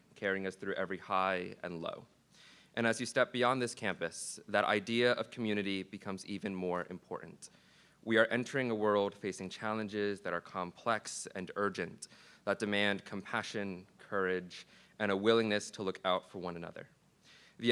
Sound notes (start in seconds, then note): none